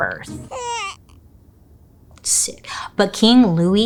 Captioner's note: baby whines